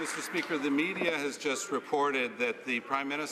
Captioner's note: some Applause